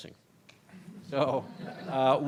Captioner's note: audience laughs